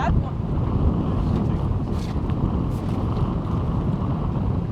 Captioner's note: wind whooshing